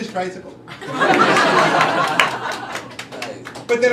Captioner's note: crowd laughing